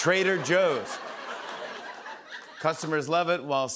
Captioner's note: laughter